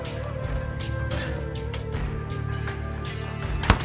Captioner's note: drawer opening; drawer closing